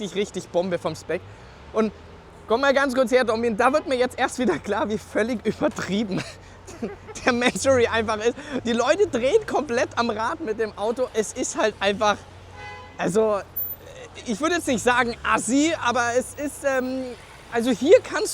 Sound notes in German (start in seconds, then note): 6.6 gelächter